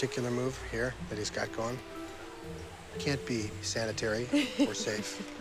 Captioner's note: laughing